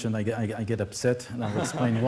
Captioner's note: laughter